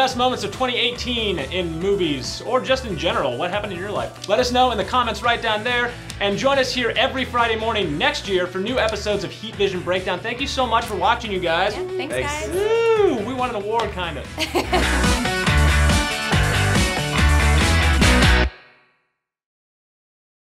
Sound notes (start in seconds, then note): 14.4 laughs; 15.0 upbeat music